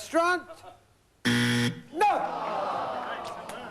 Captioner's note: buzzer